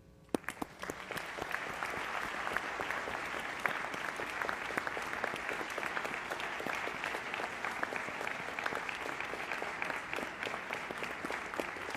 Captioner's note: applause